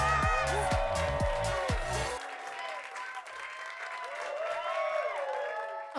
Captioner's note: audience cheering and clapping